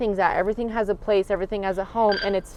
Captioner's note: device beeping